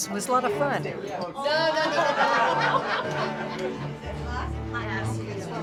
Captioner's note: laughter